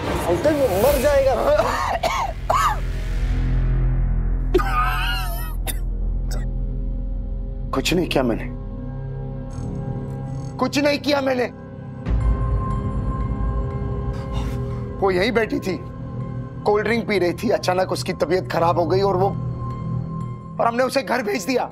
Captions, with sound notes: Uncle, he will die. [coughs] [coughs] I didn't do anything. I didn't do anything! [tense music playing] She was sitting right here. She was having a cold drink. Suddenly she started feeling unwell and we sent her home.